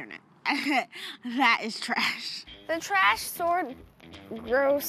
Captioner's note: laughs